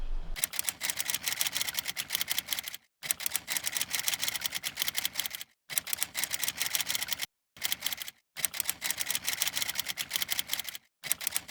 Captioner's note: typing sound